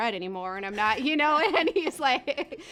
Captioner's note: laughs